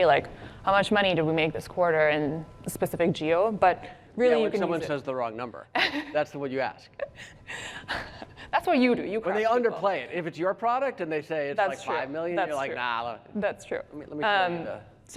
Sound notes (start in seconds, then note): 7.8 laughs